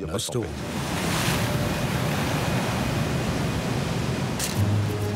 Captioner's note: waves crashing; camera snapping